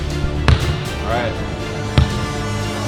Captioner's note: upbeat orchestral music; ball bounces; upbeat orchestral music